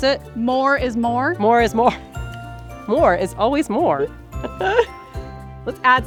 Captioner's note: laughs